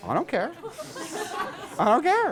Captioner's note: class laughs